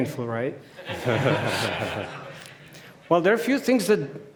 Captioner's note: audience chuckling